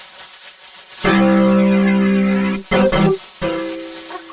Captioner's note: blast, music plays